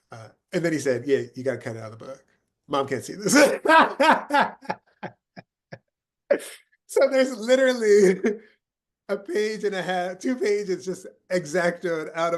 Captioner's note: laughing